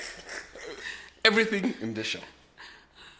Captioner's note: laughs